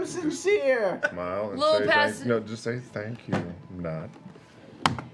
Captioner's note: whispering